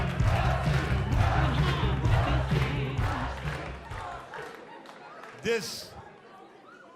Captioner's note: crowd cheering